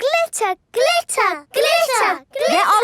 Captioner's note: chanting